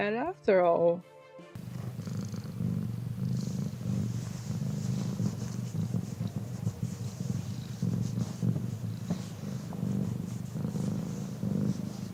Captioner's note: purr